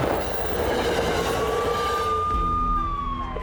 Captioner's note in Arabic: طلقات المسدس; صافرات الإنذار